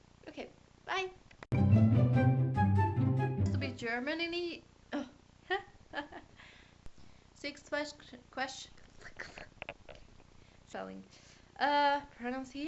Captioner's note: laugh